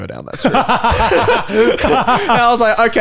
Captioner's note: all laugh